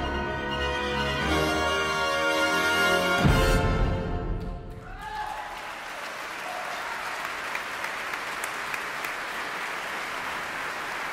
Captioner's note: applause